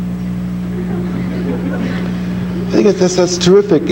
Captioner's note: audience laughing